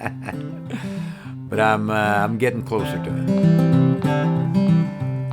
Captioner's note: laugh